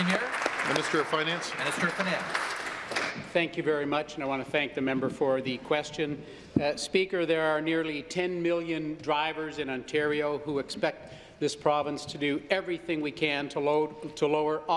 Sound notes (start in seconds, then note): 2.8 applause